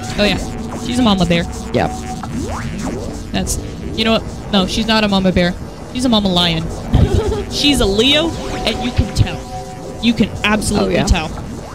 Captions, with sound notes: Oh, yeah. She's a mama bear. Yeah! You know what? No, she's not a mama bear. She's a mama lion! (laughter) She's a Leo and you can tell! You can absolutely tell.